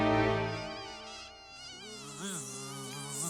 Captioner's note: mosquito buzzing; mosquito buzzing gets louder